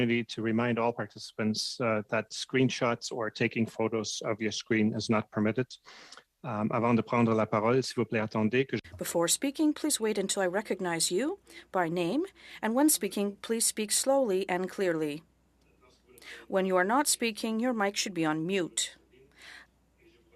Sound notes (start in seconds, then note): 15.5 speaking French